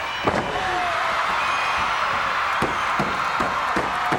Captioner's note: crowd cheers